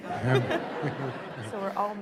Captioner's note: audience laughing